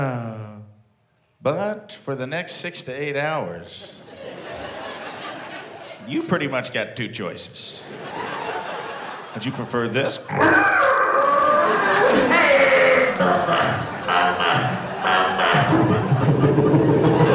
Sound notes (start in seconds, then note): 10.3 guttural growl; 11.0 deep grunts; 13.8 wheezing grunts; 15.8 struggled breaths